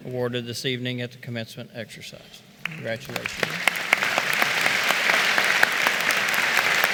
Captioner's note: applause